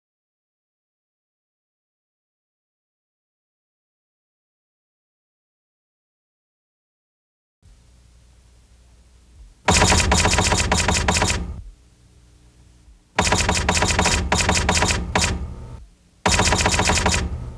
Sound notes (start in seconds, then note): 9.6 banging effect